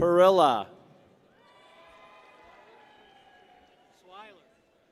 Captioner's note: people cheer